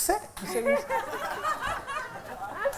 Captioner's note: laughter